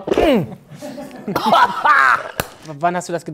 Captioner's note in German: Ekelgeräusche